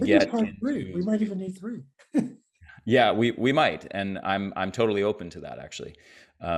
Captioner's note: chuckles